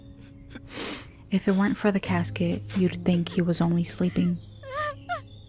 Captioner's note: snorts; crying